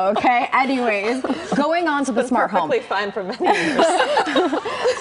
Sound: laughter

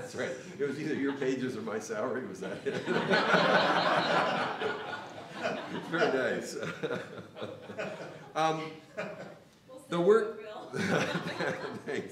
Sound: laughter; laugher

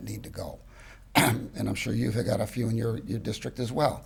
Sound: clears throat

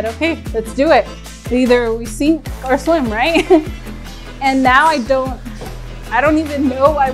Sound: chuckles

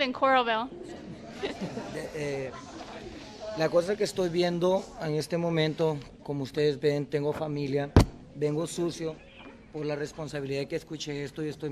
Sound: laughter

